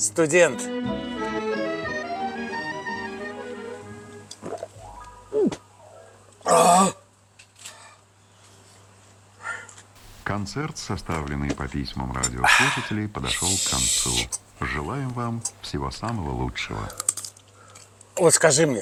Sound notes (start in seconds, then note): 4.3 radio broadcast on the background